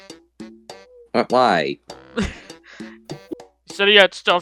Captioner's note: chuckle